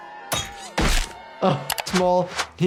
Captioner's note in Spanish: golpe de botella